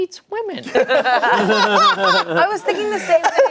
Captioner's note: everyone laughing